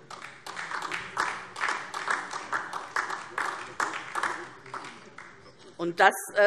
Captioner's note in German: Beifall DIE LINKE